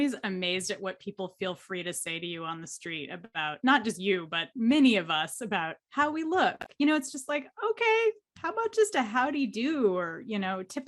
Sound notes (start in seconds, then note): none